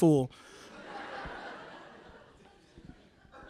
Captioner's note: laughter